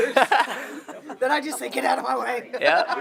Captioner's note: laughing